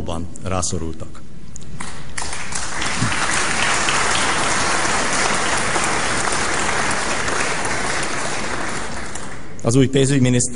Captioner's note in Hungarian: Taps a kormánypárti padsorokban